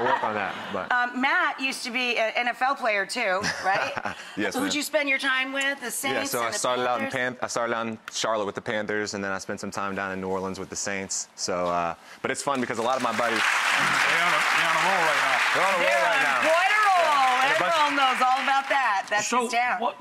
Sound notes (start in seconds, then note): 0.0 laughs; 12.6 audience applause